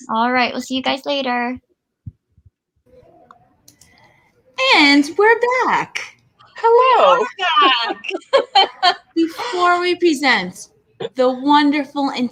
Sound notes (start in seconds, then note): 6.6 laughing